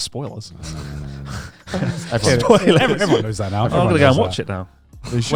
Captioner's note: chuckling